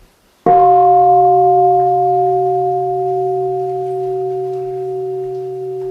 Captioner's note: gong